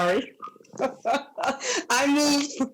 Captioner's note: laughs